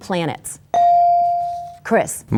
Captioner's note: bell dings